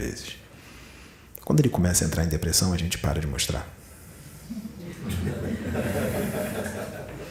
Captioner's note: laughs